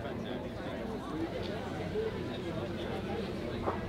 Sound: people chattering

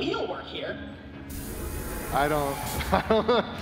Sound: laughter

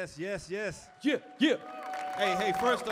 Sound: audience applauding

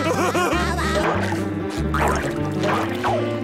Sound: laughing; buzzing

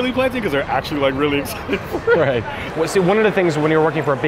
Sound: laughs

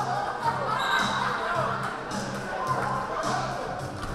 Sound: whistle blaring

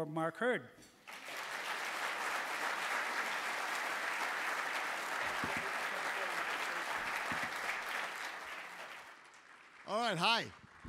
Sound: applause

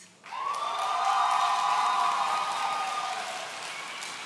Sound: audience cheering

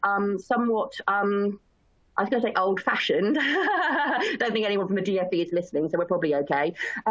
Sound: chuckles

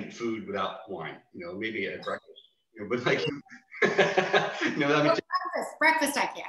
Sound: laughs

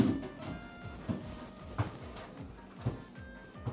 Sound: clanking

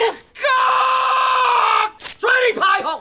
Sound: screaming

